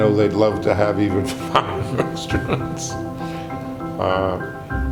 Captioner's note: laughing